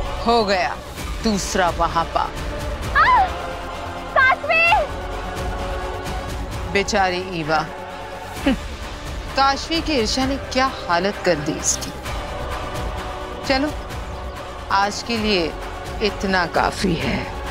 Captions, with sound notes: The second sin is done. [yells] Kaashvi! Poor Eva. What did Kaashvi do to her? That's enough for today.